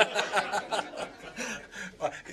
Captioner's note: laughter